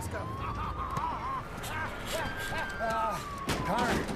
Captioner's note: Jason laughing maniacally